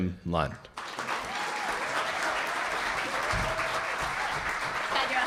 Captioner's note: audience applauding